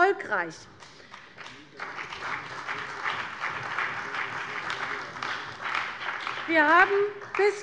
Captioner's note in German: Beifall bei der CDU und dem BÜNDNIS 90/DIE GRÜNEN